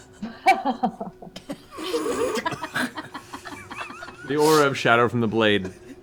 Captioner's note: laughter